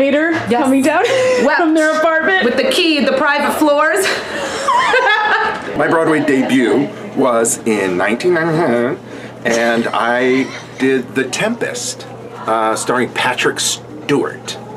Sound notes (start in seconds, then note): 4.0 laughing; 8.2 mumbles